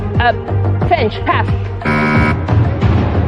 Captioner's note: buzzer sounds